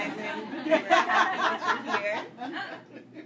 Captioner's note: audience Laugh